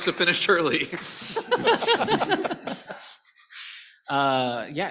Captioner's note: laughter